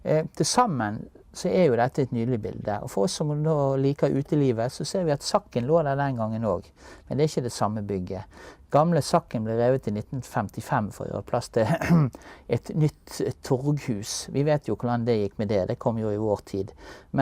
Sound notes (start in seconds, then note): 11.6 ahem